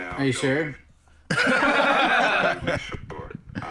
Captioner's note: both laughing